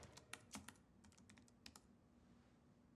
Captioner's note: typing